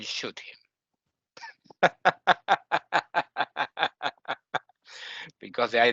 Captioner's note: laughing